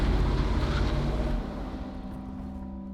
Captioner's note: car screeches off